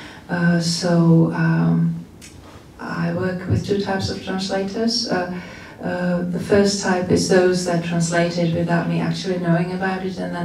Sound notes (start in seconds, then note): none